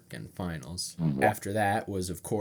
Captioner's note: boo-womp sound effect